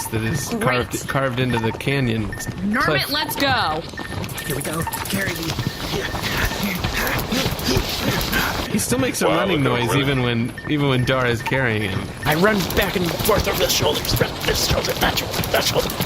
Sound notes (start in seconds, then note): 5.9 panting as he climbs up Dar; 11.9 strained